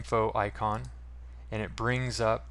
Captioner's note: mouse click